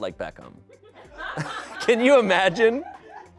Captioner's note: people laugh